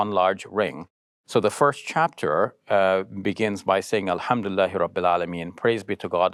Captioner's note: speak Arabic